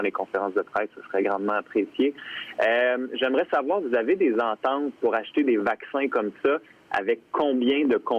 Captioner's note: speaking French